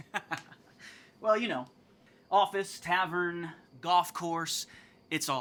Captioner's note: laughs